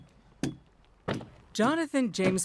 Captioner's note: ads thudding